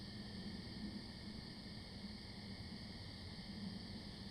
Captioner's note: crickets chirping